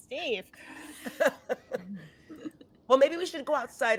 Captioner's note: cast members laughing